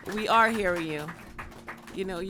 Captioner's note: applause